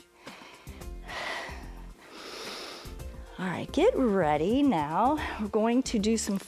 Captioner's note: exhales and inhales